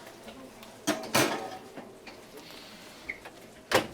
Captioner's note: oven thudding